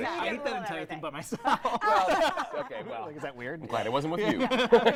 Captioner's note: laughing